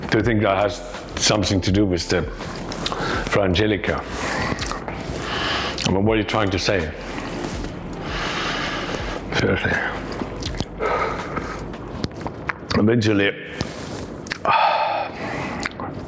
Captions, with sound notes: Do you think that has something to do with the Frangelico? I mean, what are you trying to say? Seriously? Eventually... (sighing)